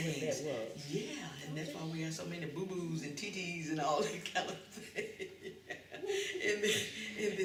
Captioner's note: laughs